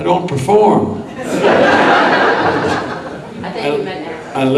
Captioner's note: audience laughs